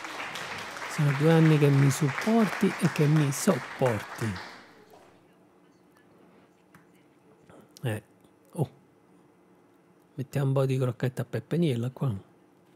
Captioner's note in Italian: Applauso